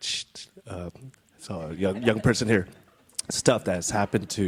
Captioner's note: audience chuckles